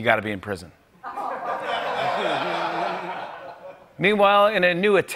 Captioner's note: laughter